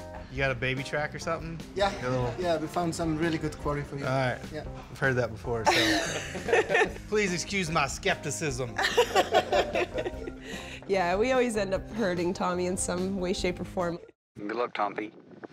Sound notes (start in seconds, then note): 8.8 laughter